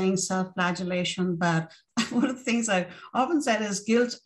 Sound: laughter

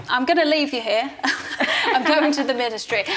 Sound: both laughs

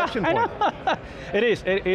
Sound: laughs

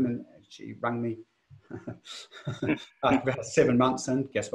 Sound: laughs

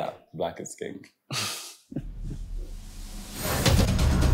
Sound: chuckles

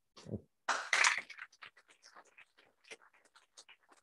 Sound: applause

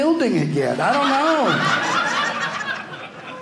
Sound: audience laughing

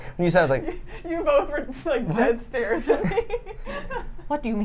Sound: laughs

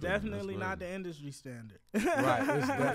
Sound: laughs

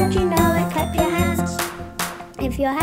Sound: clapping

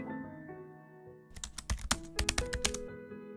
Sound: typing sound effects

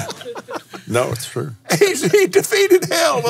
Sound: laughs

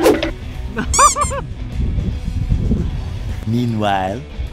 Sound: squeak

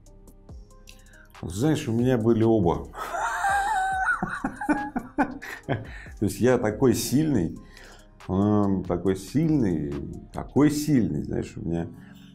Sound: laughs

